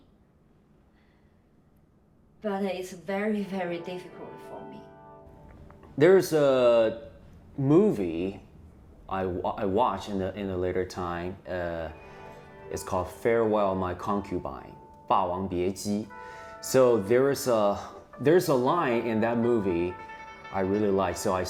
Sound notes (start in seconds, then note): 14.9 speaks in foreign language